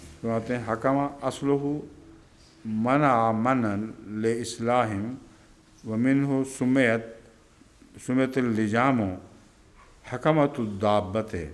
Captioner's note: Arabic